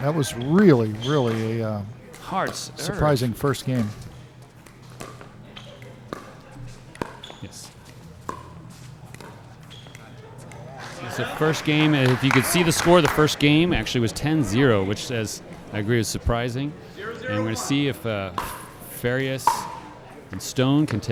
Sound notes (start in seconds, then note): 3.6 shoes squeaking; 4.9 ball being hit